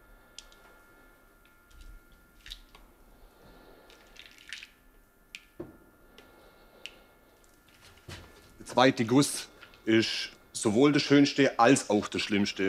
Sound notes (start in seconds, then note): 1.6 quiet splashing